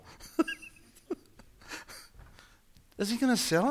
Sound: laughing

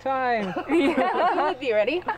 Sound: laughing

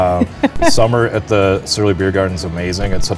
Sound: laughs

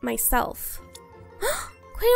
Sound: gasp

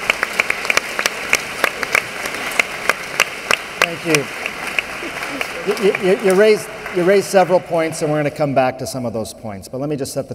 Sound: applause

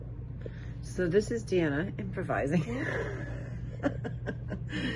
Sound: laughing

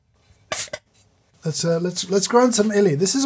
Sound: can fizzing

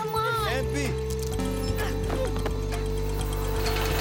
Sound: computer chiming; whirring

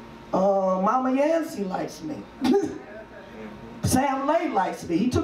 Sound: laughs

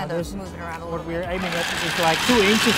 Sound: rattling

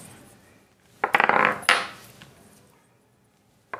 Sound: clattering

